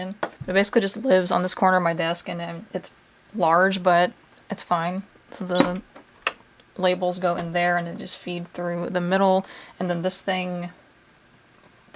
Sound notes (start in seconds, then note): 5.5 printer chirps